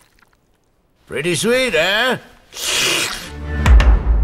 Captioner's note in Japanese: 卵をすする音